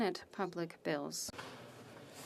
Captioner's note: speaking French